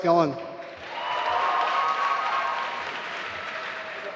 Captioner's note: applause